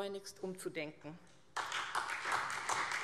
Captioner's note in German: Beifall SPD